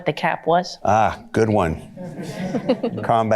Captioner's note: audience laughter